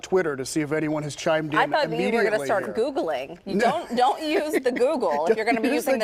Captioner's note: laughter